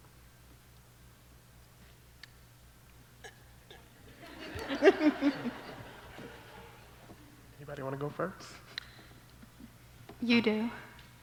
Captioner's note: laughter